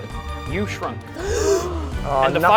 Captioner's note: gasp!